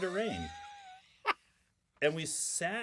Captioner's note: laughing